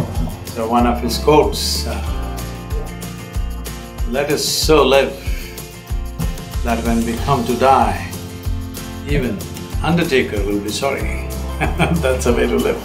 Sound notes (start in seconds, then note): 11.5 laughs